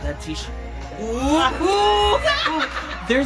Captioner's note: laughs